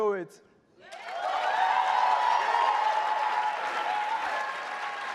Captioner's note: audience cheers loudly